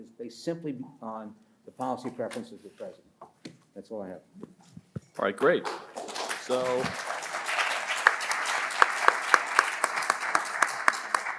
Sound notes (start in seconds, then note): 3.5 pats table; 5.2 audience applauds